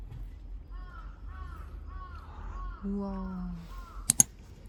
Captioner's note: crow sounds from somewhere